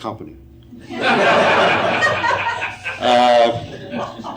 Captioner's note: audience laughing